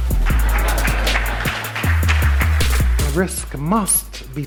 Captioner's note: audience claps and laughs